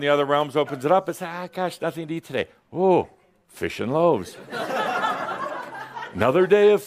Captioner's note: laughter